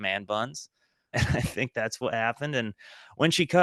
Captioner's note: chuckle